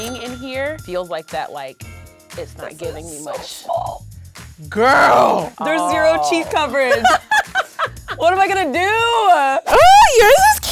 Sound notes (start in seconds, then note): 0.0 cash register dings; 7.6 laughing